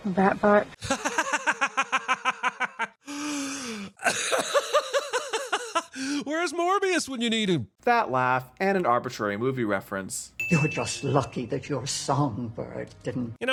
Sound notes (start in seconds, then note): 6.2 obnoxious laughter